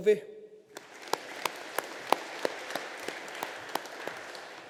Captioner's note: audience applauding